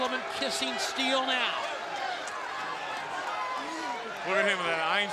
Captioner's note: crowd chatter